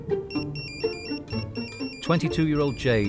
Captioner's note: phone ringing